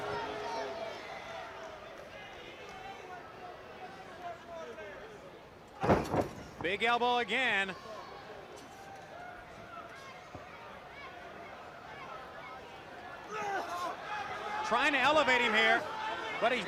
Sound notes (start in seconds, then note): 9.3 crowd chatter; 13.4 crowd chatter